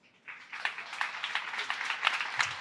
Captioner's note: applause